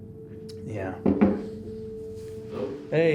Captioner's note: knocking